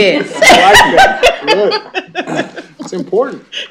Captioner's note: laughter